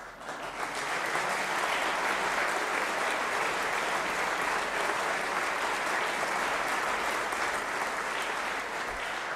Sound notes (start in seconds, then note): 5.8 applause